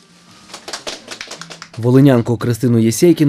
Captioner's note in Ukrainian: Оплески